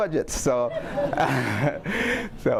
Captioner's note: audience laughing